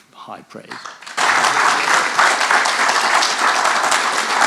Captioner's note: audience applauding